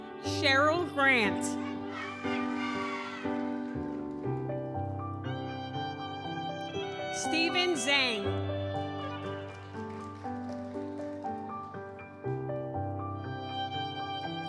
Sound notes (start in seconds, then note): 1.3 audience cheers; 2.3 gentle music continues; 9.4 audience applauds; 9.4 gentle music continues